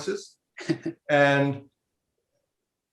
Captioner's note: laughing